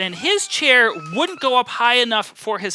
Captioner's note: laughing